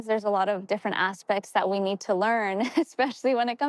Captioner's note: chuckles